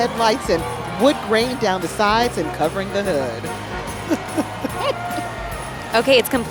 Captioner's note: chuckling